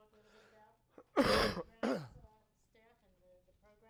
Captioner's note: coughs